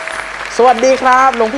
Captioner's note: clapping